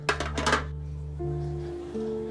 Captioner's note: beer cans clattering; somber music